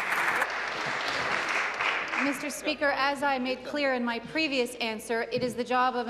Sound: applause

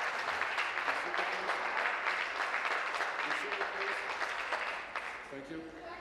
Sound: applause

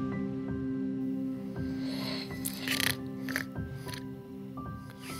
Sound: snoring

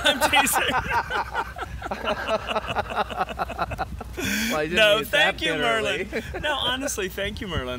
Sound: laugher

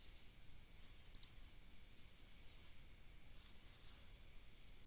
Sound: mouse clicks

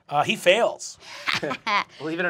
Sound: laughs

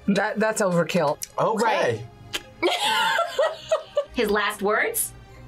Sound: laughs

